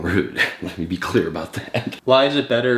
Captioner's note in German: lacht